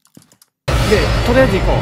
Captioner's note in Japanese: 効果音